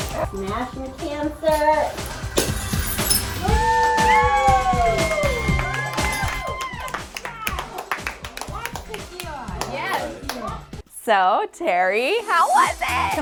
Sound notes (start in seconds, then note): 2.3 glass shattering; 3.4 cheers; 4.9 claps